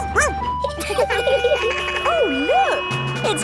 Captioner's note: laughing; sirens sounding; barks